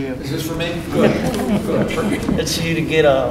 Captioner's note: laughter